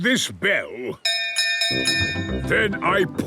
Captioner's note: bell chimes